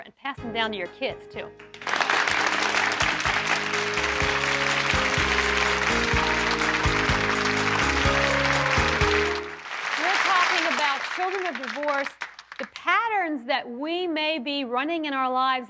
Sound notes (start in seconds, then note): 0.4 soft peaceful music; 1.6 audience applauding